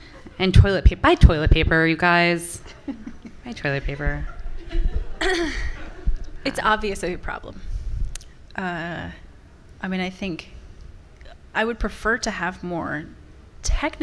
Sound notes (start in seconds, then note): 0.0 and audience members laughing; 2.6 laughing; 3.6 laughter from the audience